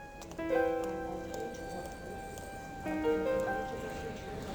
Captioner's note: people murmuring